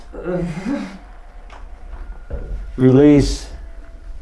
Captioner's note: groans